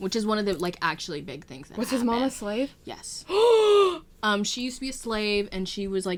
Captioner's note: gasp